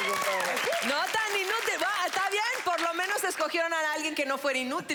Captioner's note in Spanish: Aplausos